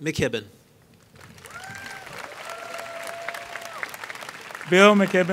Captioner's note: applause